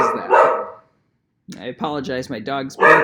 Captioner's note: dog barks